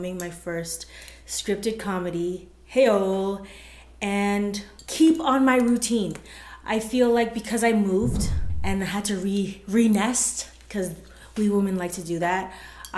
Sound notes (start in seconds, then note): none